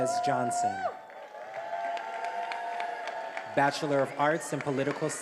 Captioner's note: attendees applauding and cheering